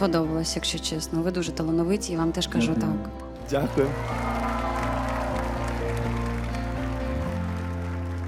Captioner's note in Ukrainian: оплески